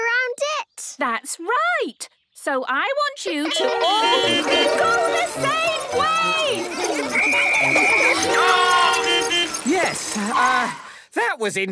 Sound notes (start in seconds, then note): 3.5 beeping; 6.3 whistle blowing; 8.2 beeping